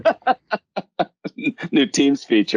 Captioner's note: laughs